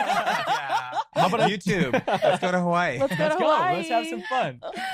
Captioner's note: laughter